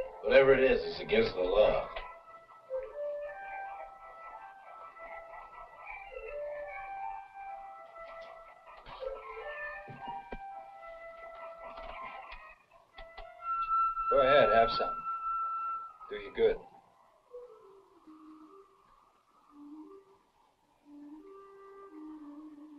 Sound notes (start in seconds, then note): 3.3 clucking; 3.3 gentle instrumental music; 18.6 whimsical instrumental music